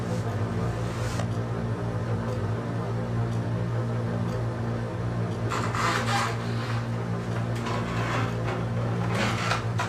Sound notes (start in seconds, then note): 6.1 floor creaking